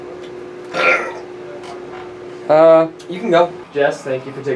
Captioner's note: burping